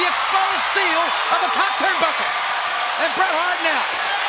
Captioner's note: audience cheers